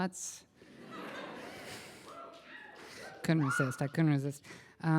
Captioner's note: laughter